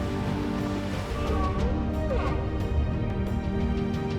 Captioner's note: whale calling